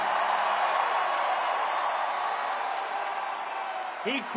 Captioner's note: crowd cheering